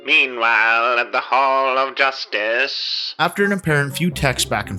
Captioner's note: distorted Transatlantic Voice